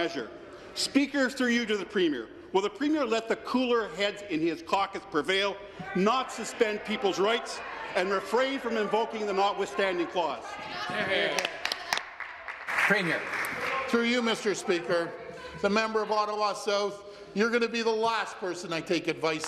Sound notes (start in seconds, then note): 14.6 applause